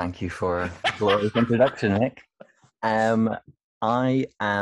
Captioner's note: laughs